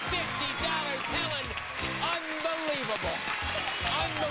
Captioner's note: audience applauding; audience cheering